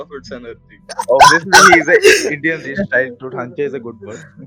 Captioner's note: background laugh